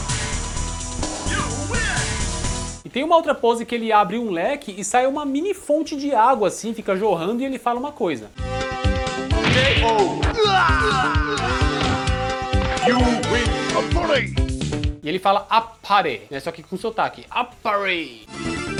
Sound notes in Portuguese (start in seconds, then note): 13.7 grito